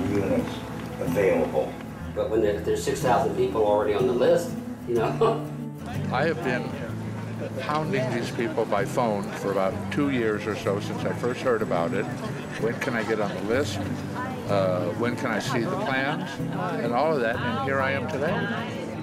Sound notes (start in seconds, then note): 5.1 laughs